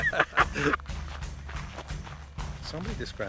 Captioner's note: laughing